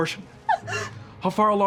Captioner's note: sniffling